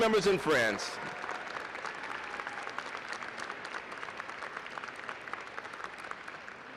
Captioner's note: applause